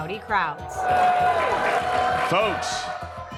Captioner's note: audience booing